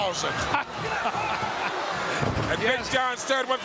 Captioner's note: chuckling